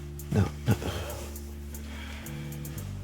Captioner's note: somber music; Darryl sighing; somber music